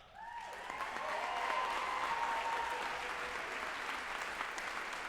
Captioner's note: group applauding and cheering